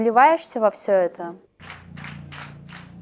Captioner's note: applause